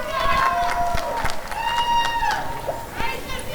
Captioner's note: applause and cheering